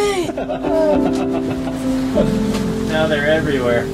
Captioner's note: laughs